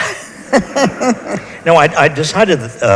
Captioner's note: laughs